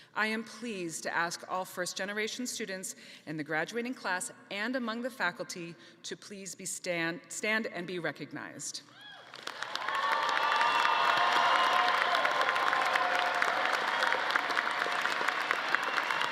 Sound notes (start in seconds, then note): 9.2 audience applauding